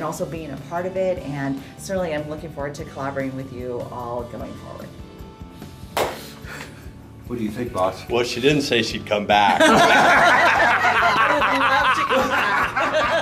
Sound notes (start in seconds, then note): 5.9 claping in the Background; 9.5 everyone laughs